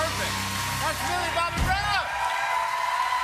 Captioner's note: cheers and applause